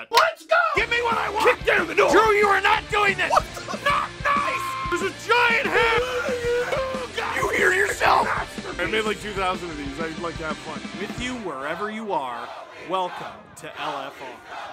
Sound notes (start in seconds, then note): 3.6 screaming; 6.6 Harry potter screaming